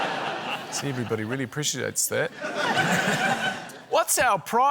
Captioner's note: laughter